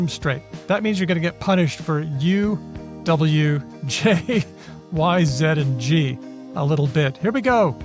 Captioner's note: chuckles